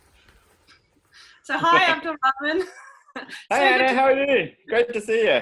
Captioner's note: chuckles